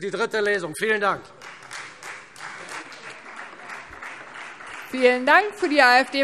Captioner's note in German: Beifall Freie Demokraten